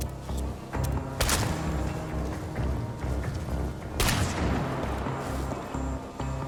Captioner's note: suspenseful music; gunshots firing